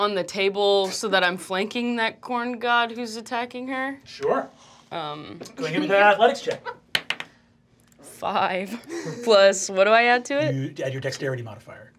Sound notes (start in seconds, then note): 6.9 dice clacking